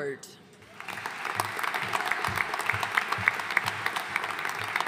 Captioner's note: audience applauding